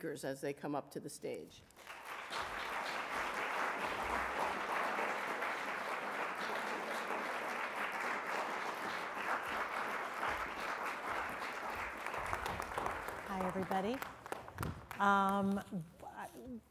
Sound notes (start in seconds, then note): 1.7 clapping